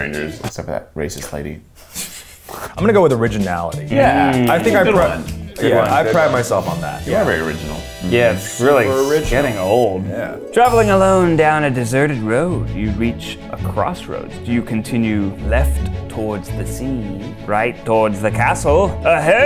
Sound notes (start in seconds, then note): 1.7 laughs